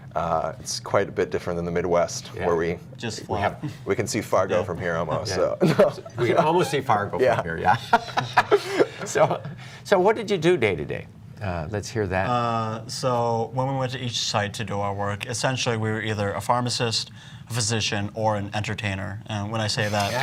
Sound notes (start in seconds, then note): 7.2 laughter